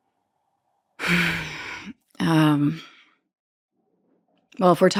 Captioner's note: sighing